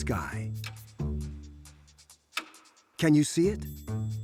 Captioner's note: comparator clicking